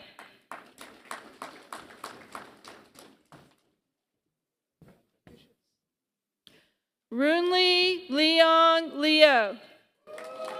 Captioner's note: applause; applause